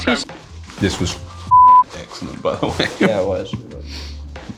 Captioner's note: chuckles